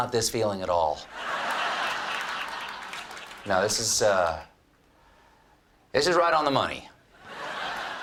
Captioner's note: laughter